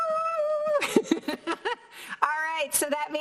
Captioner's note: laughs